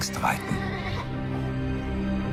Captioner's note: Bucephalus whinnying